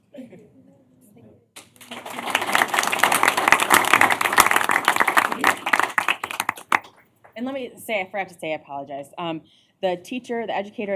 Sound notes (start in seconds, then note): 1.6 applause